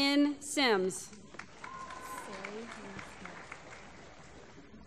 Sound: applause

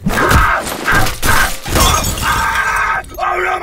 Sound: shattering of glass

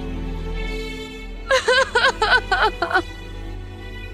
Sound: sobbing

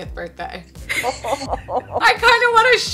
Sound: laughing

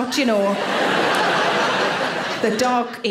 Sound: audience laughing

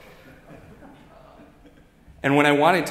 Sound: audience giggling

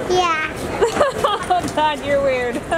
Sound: laughing

